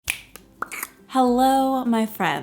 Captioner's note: finger snapping